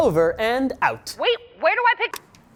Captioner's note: on phone